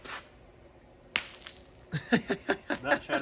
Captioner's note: egg shattering; laughing